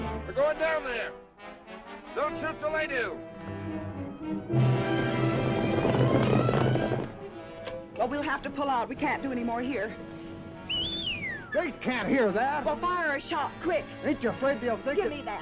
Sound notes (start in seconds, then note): 3.0 dramatic music; 4.7 horse hooves clopping; 7.4 dramatic music; 10.6 whistling